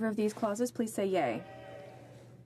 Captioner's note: speaking french